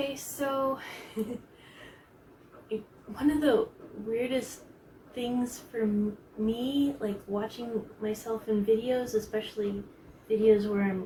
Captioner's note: chuckles